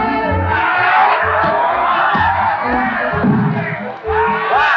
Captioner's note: cheers from crowd